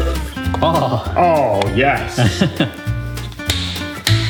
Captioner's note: chuckles